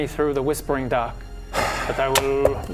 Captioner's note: sigh